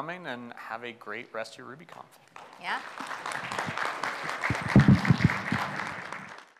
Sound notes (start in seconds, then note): 2.3 audience applauds